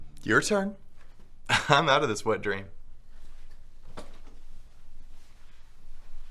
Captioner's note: chuckles